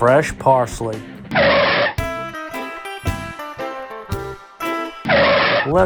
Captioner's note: SFX: Tires screech